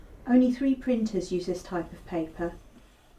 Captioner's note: none